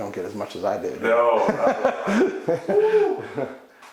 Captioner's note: laughs